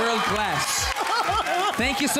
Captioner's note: audience cheering